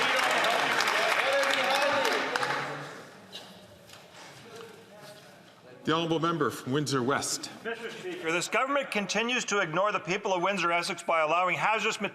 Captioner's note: some Applause